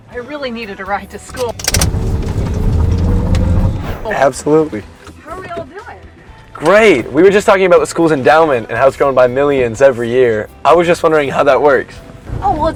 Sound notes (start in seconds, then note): 1.2 car revving